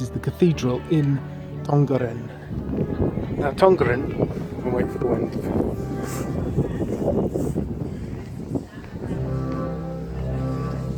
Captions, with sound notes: This is the cathedral in Tongeren. [Heavy WInd Noise] Now Tongeren... We'll wait for the wind...